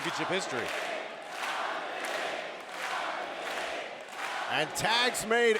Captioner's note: audience chanting; audience clapping